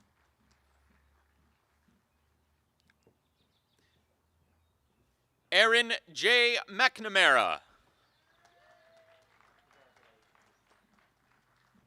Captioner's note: applause